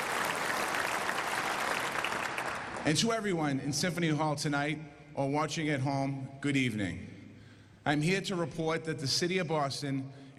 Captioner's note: applause